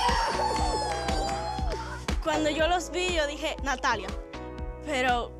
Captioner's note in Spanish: exclamaciones